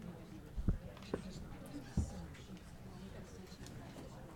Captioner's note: people chattering